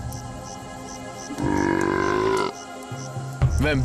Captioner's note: burps